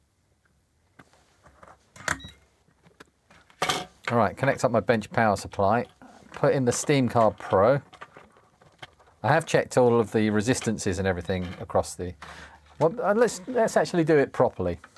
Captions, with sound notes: (Beeping) All right, connect up my bench power supply. Put in the Steamcar Pro. I have checked all of the resistances and everything across the... Let's actually do it properly.